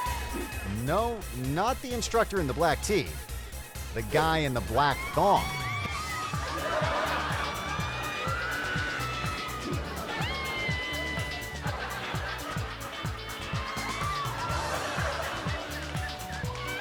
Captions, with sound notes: No, not the instructor in the black tee, the guy in the black thong. (spectators shrieking) (audience laughing)